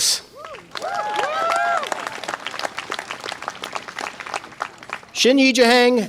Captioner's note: audience applause and cheer